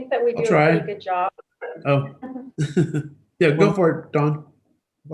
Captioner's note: laughs gently